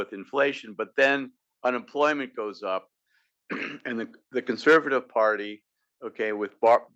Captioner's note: cough